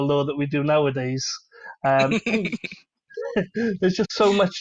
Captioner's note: laughter